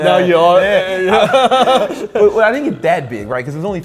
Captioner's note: laughing